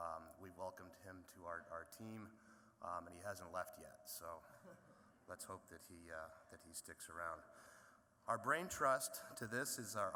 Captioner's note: laughter